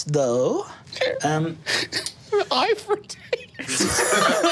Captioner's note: group laughing; laughs